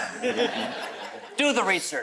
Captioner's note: audience chuckles